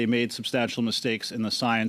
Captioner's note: speaking french